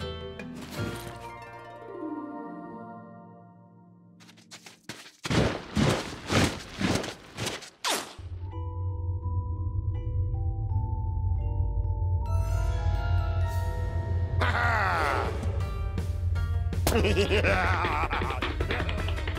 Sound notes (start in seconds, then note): 8.4 intriguing music; 16.9 giggles